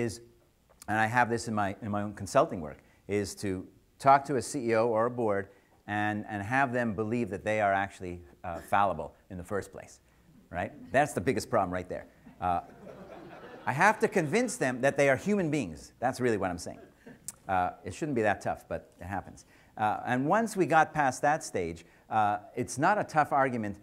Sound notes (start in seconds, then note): 12.6 audience laughs